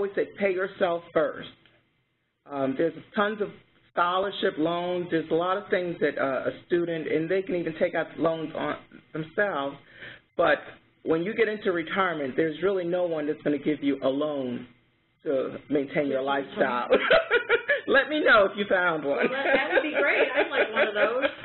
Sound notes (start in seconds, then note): 16.9 laughter